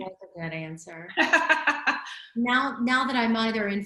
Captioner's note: laughs